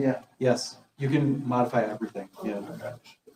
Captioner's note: none